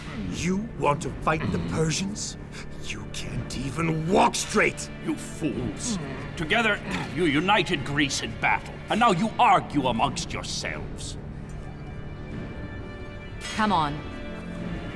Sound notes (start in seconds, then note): 6.2 Philip groans